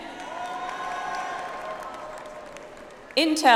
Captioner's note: audience applauds